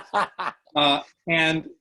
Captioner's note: laughing